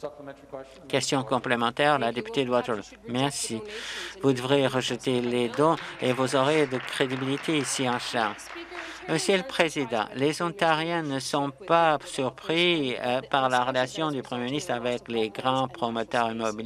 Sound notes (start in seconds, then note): 10.1 some Applause